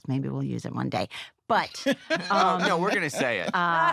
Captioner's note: laughs